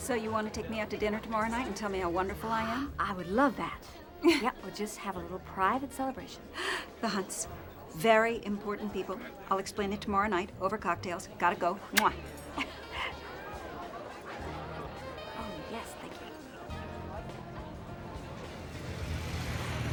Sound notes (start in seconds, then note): 11.9 smacks lips; 12.3 chuckles